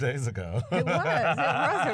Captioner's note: laughter